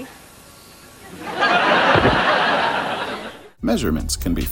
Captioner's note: laughter